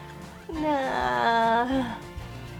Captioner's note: distressed cry for boba